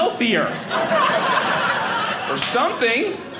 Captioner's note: audience laughing